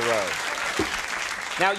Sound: applause

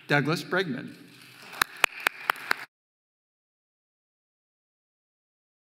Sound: audience applauding

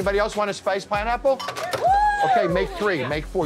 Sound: patrons cheering

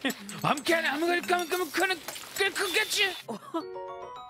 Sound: stuttering

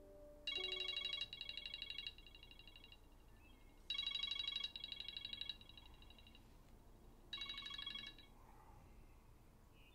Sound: alarm ringing

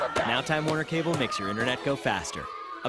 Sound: boys screaming

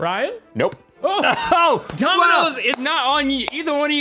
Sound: exclaims

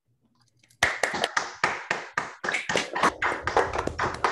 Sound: applause

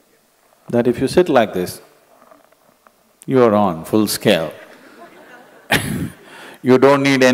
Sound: laughs

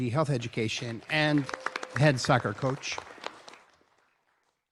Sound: applause

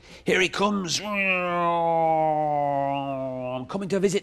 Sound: mimics plane sound

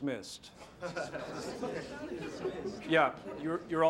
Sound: scattered laughter

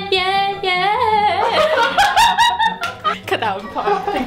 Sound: laughing

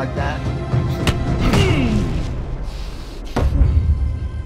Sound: men grunting

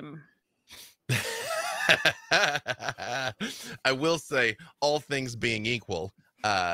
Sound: laughs

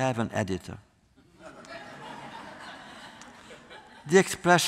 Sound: laughter

